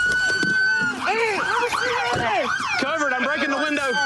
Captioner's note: shouting